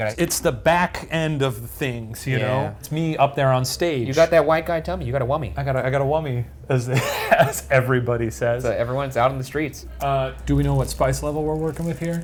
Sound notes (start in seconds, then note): 6.9 laughs